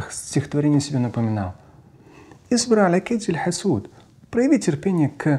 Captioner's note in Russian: Говорит на арабском